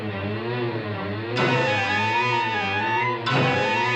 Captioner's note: thumps